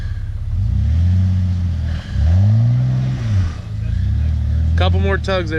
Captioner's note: tires spinning